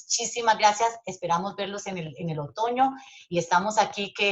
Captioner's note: speaking Spanish